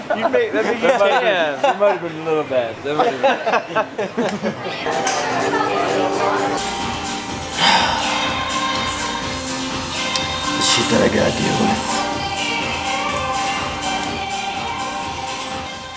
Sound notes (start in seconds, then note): 0.0 laughter; 7.5 sigh